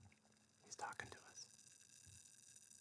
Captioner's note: whispered